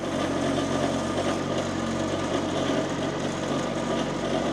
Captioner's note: machinery rumbles